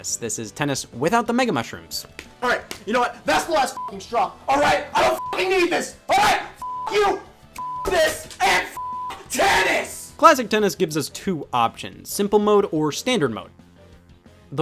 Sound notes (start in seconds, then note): 5.0 beeps; 8.7 beeps